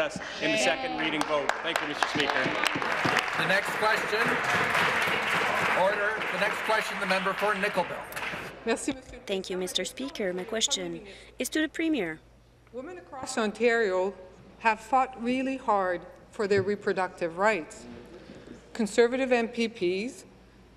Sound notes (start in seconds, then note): 7.0 applause